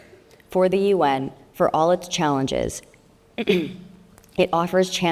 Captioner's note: clears throat